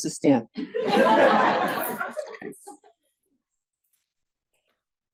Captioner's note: audience applauds